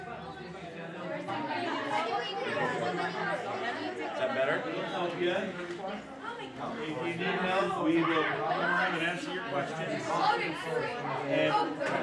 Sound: chatter

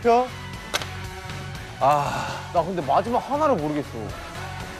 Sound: runs after a big sigh

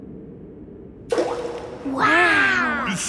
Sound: rock plops

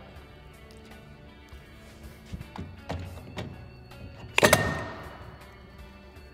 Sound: metallic clanking; rock music

